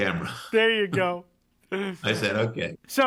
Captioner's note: laughs